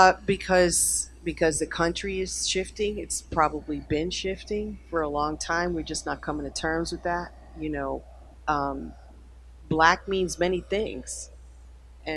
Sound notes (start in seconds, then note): none